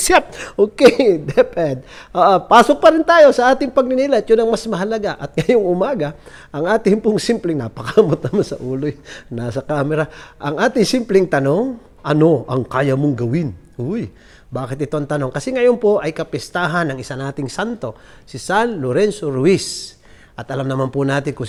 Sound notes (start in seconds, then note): 3.3 chuckles; 5.6 chuckles